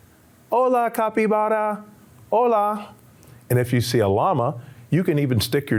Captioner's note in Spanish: hablando en español